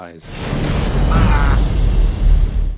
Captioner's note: Thane screams